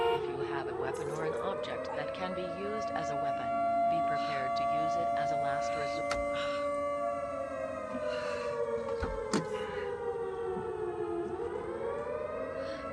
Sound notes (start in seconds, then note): 7.2 alarms continue wailing; 7.9 Kenza breathing heavily